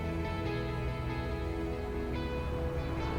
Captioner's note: car engine revving